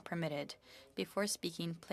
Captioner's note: speaking French